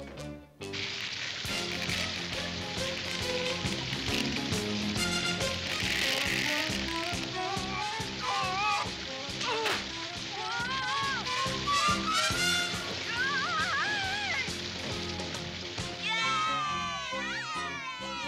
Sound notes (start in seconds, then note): 7.4 grunting; 12.7 exclaiming; 15.8 all cheering